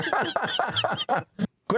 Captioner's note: laughing